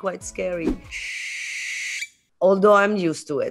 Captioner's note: owl hoots